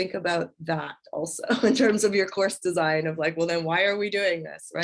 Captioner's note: laughter